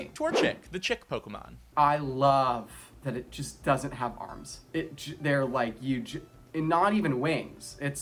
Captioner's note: stuttering